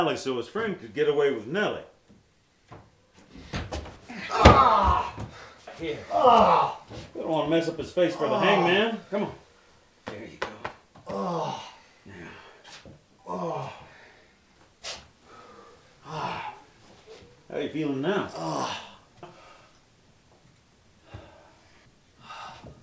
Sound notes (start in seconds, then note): 4.1 henchman groans; 11.0 henchman groans; 18.1 henchman groans